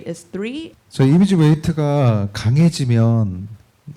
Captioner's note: speaking korean